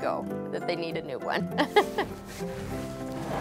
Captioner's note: laughs